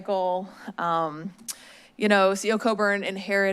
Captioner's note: smacks lips